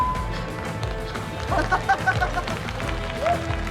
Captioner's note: microphone feedback; speaking Tibetan; laughing